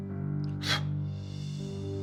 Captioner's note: blows